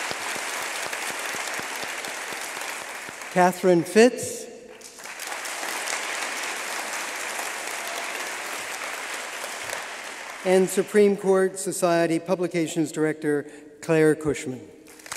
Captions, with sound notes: Katherine Fitz (applause) and Supreme Court Society Publications director Claire Kushman